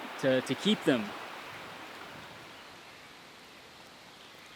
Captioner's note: birds chirping